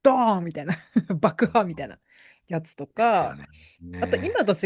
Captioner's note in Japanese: 笑い